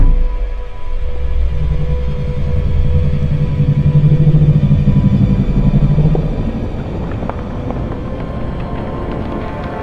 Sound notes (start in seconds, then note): 1.8 throbbing; 6.7 rock cracking